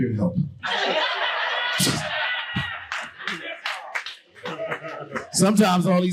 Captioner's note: audience laughing hysterically